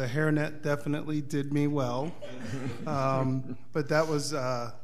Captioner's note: audience laughing